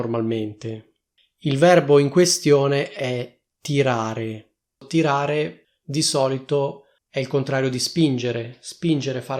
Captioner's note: Italian